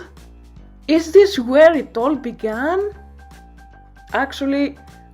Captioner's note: gasp